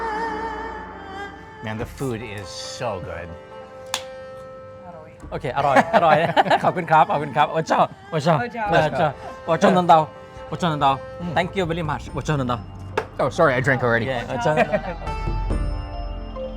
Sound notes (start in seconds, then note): 5.5 laughing; 8.2 Speaking in Hmong